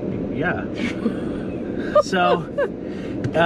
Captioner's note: laughs